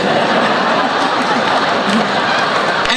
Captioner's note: laughing